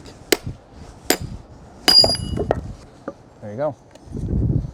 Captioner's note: hammer banging